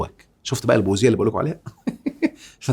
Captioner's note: sarcasm!